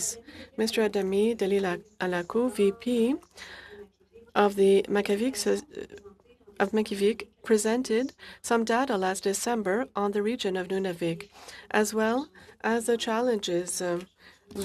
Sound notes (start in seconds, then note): 5.4 speaking French